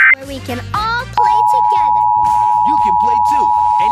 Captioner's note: alert Tones Playing; beep Noise Playing